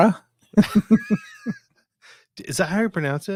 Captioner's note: laughing